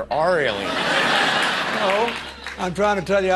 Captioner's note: audience laughter